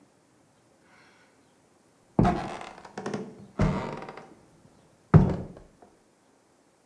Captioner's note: three loud footsteps